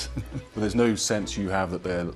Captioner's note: voiceover